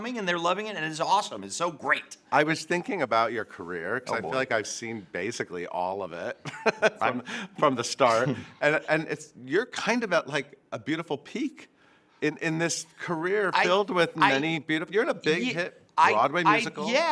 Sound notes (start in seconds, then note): 6.4 chuckles